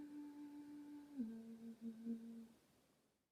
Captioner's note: soft eerie humming